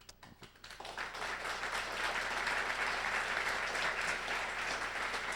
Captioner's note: applause